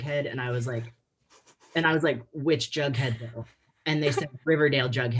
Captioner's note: laughing